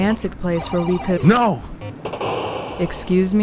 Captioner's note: video game noise